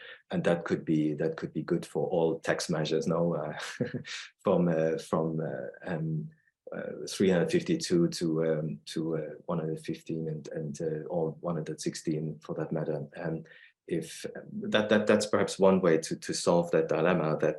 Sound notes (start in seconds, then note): 3.5 chuckles